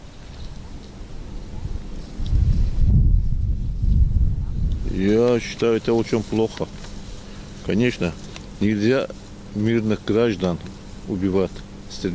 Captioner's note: very strong Caucasian/Gorgian accent